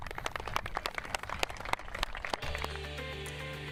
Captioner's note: clapping